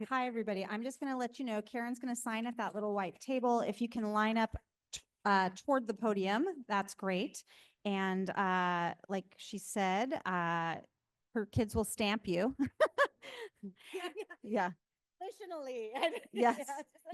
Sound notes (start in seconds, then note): 12.7 laughs